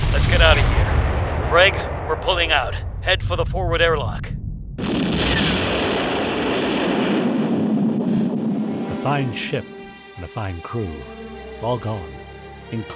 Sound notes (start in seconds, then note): 5.0 explosion booming